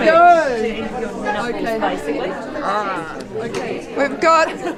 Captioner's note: audience chatter